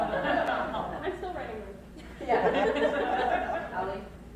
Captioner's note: crowd laughs